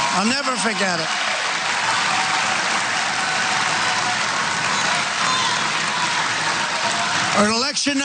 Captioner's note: applause